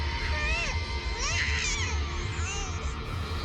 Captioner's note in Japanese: 泣き声